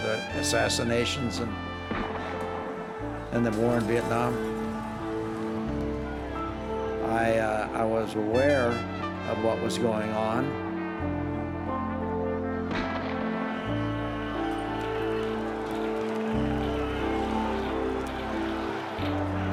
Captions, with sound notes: with the assassinations and, and the war in Vietnam. (crowd clamoring) I, I was aware of what was going on... (gun firing, whistle blowing, crowd clamoring)